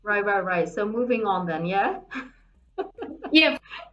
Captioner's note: laughing